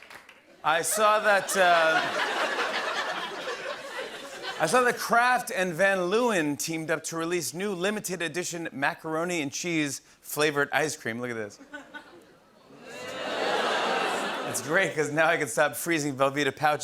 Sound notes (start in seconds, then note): 0.8 laughter; 12.8 audience groans